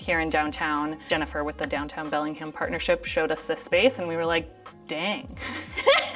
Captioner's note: laughs